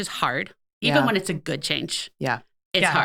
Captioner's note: laughing